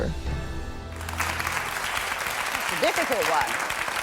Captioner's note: applause